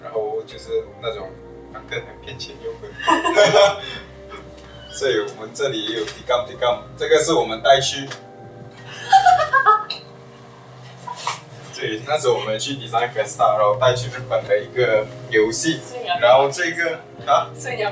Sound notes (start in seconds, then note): 2.6 laughs; 8.9 laughter